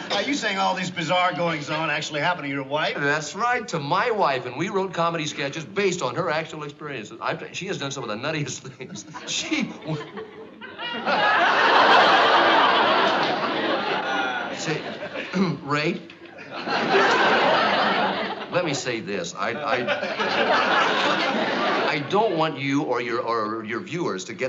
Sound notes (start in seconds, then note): 12.6 clears throat